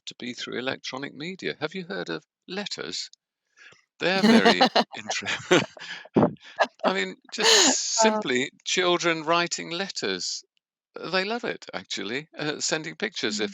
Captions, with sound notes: to be through electronic media. Have you heard of letters? They're very inter-- [LAUGHTER] I mean, just simply children writing letters. They love it, actually, sending pictures